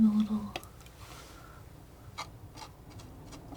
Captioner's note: scratching